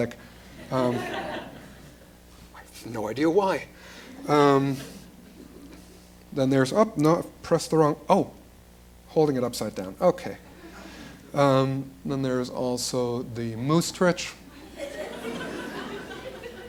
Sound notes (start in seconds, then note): 0.5 laughter; 1.1 sarcastically; 14.6 laughter